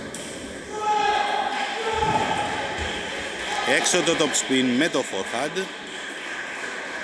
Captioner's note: applause